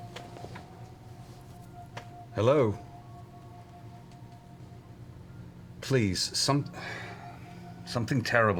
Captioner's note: sighs